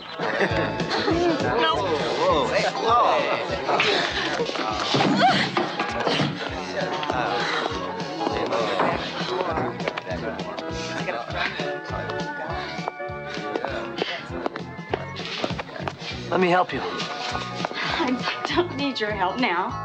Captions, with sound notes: (honky-tonk music) (crowd chattering) (pool balls clacking) Let me help you. - I don't need your help now.